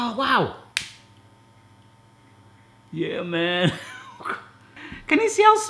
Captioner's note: lighter clicking; laughing